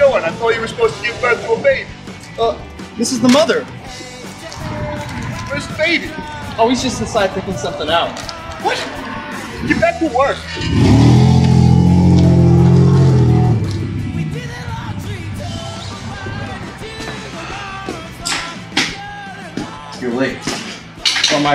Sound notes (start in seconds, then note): 10.3 car engine revving; 14.5 upbeat music